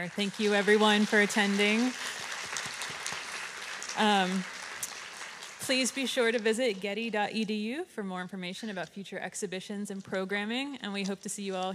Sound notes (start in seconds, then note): 1.6 audience applauding